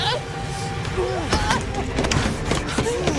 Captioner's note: crying; racing footsteps; hollow thud; chair rattles